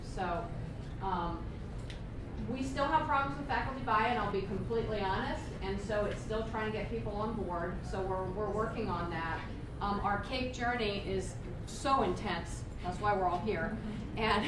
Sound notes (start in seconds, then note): none